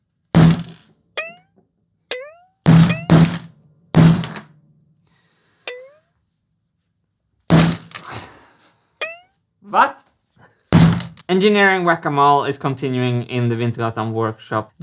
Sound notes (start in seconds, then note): 0.3 boing; 0.3 whack; 2.1 boing; 2.6 whack; 5.0 draws breath; 5.7 boing; 7.4 boing; 7.4 chuckles; 7.5 whack